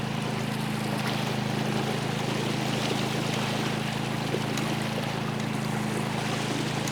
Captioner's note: boat motor humming; water sloshing